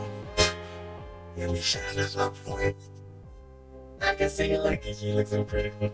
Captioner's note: spits